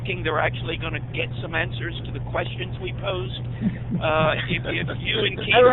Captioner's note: laughter